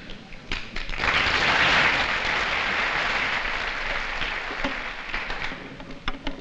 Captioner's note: applause